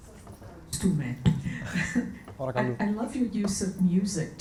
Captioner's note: and audience member speak Greek